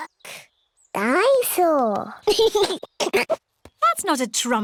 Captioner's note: giggles